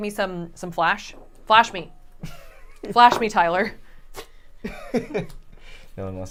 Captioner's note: laughs